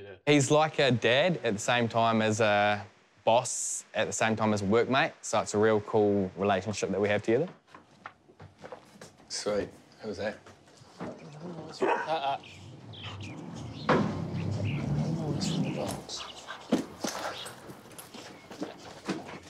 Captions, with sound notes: He's like a dad at the same time as a boss, at the same time as a workmate, so it's a real cool relationship that we have together. Sweet. Who was that? (DOG BARKS) Uh-uh! (WHEELS RUMBLE)